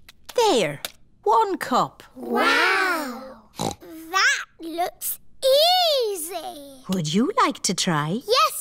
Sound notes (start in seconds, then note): 3.5 snorts